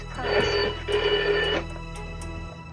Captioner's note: telephone rings